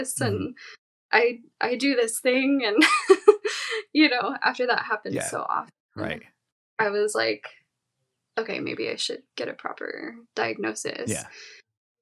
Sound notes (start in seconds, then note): 2.6 chuckles